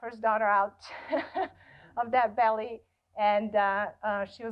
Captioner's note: laughs